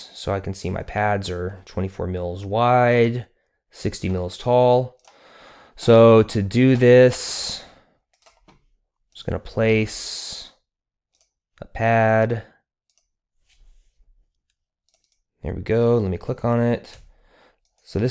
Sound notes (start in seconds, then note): 12.8 mouse clicking